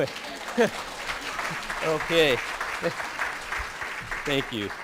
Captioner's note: applause